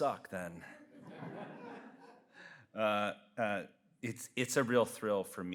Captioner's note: audience laughs